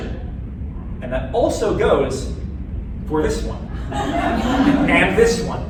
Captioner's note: laughter